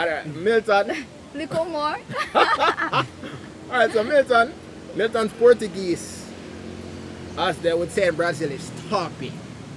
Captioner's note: laughter